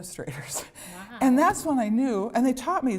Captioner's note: laughter